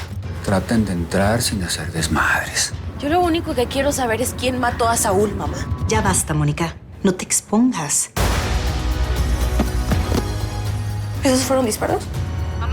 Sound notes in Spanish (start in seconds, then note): 8.0 Disparos